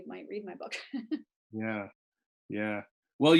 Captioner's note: laughs